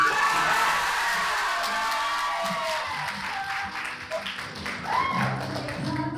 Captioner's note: applause